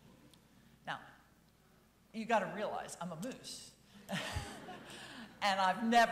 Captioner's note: chuckles